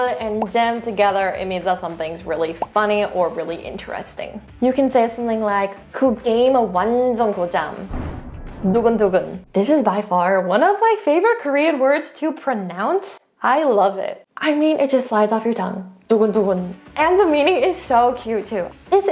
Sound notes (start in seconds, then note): 0.1 speaking in Korean; 6.2 speaking in foreign language; 7.8 energetic transition music; 8.7 speaks in Korean; 15.8 speaking in Korean; 16.4 upbeat music starts